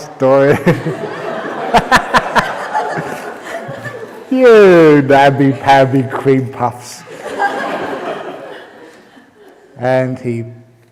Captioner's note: laughter; laughter